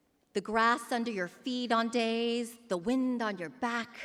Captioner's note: none